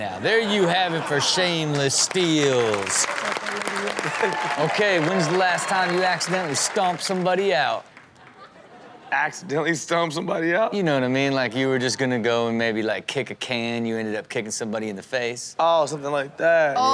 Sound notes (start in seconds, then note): 2.8 audience applauds